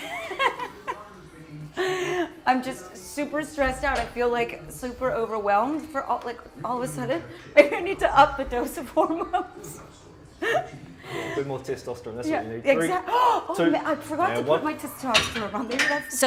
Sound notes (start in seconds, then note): 0.0 laughing; 10.3 laughing